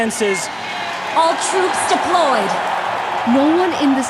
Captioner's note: crowd cheering, applauding; music fades